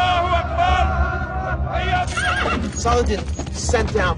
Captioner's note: yelling